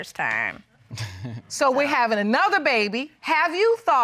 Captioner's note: chuckles